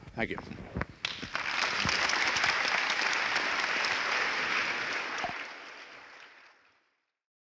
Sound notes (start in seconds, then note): 1.0 applause